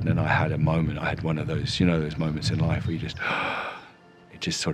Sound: gasping

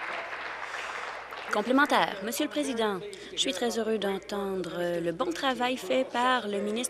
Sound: applause

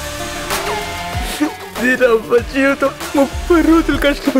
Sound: sobs

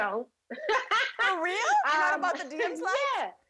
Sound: laughing

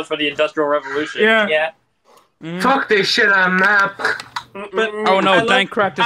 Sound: "snaps" his neck

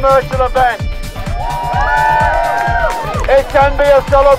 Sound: cheering

